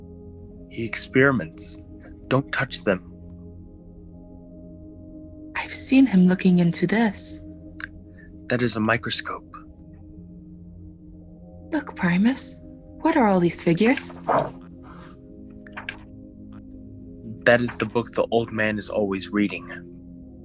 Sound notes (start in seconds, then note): 14.0 turns a page in book